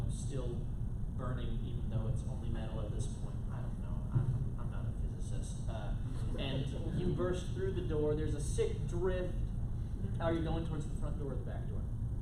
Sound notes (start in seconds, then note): none